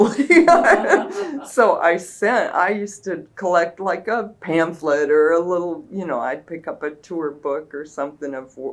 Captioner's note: laughter